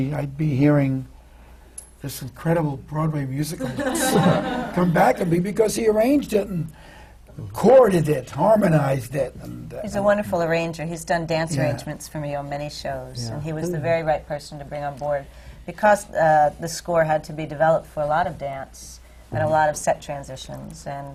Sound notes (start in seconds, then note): 3.6 laughter